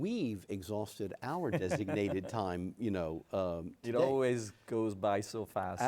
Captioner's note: laughs